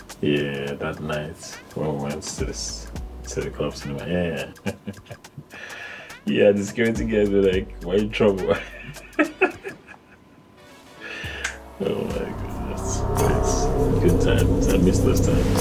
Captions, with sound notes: Yeah, that night, when we went to the clubs in the morning, yeah, yeah, yeah, yeah. Yeah, just going together like, why you in trouble? (laughing) Oh my goodness, nice, good times, I miss those times.